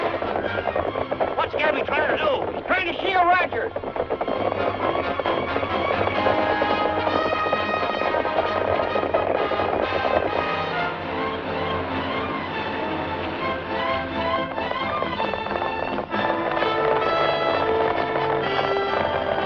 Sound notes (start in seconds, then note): 11.4 truck revving